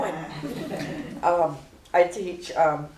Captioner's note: laughter